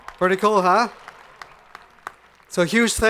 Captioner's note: crowd applauding